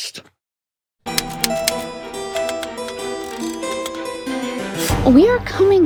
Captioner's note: keys clacking; mysterious music